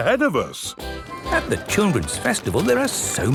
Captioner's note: festival buzz and music